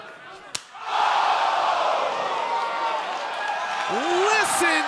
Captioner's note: crowd exclaiming